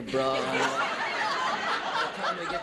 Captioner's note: audience laughing